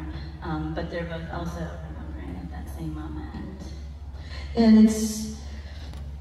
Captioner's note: none